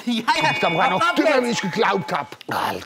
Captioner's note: Glockenläuten